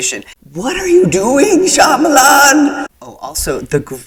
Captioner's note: echoing